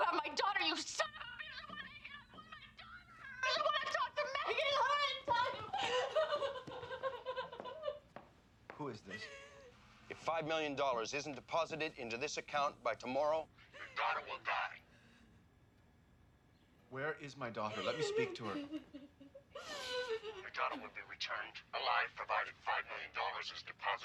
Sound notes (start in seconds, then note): 9.0 sobbing